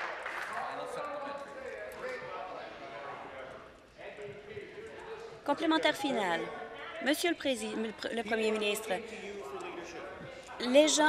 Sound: some Applause

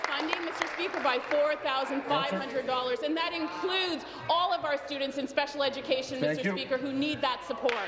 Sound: applause

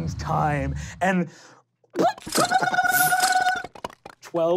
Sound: popping

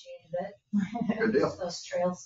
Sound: people chuckle

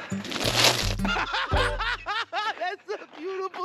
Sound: Ron laughing

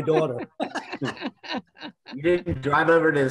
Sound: group laughing

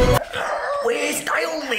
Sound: Kevin gagging

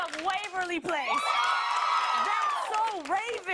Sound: cheers and applause

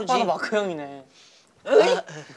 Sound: sniffing

